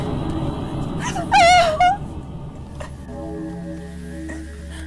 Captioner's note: church bells tolling